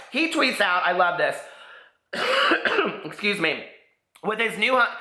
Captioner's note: coughs